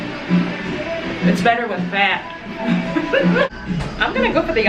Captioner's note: laughs